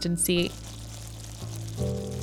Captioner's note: sizzling